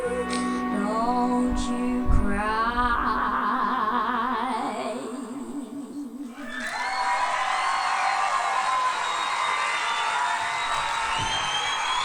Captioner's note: applause